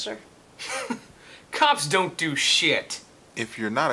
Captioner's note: laughs